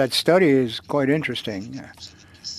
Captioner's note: speaking French